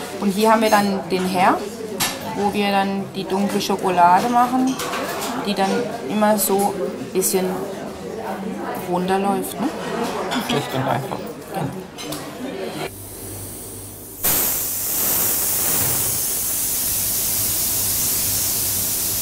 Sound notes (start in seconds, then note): 14.0 hissing